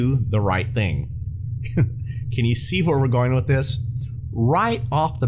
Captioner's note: chuckles